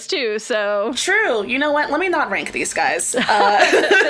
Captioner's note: both laugh